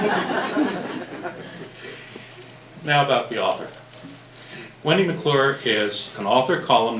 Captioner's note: laughter